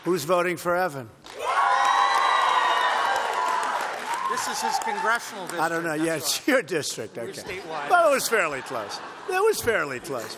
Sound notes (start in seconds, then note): 1.3 cheers; 8.2 laughter